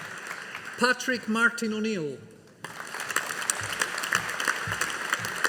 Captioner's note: audience applauding